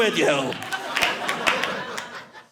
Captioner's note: audience laughing